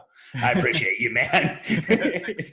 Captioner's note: laughs